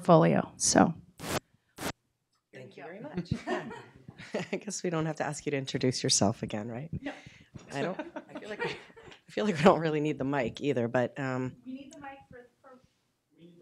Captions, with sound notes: 0:11:13 S?: Thank you very much. [chuckle] 0:11:18 I guess we don't have to ask you to introduce yourself again, right?